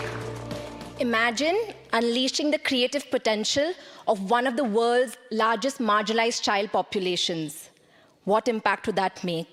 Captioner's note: applause